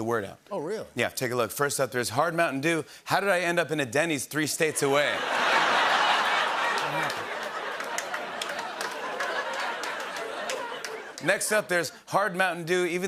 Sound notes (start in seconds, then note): 4.7 laughter